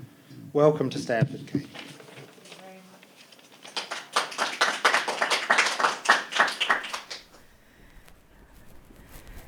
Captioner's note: audience clapping